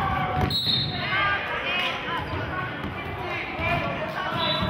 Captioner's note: whistling